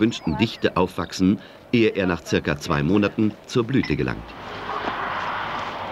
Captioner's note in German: Arbeitsgeräusche